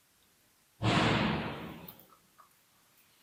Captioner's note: bang